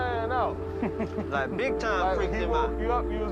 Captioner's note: chuckles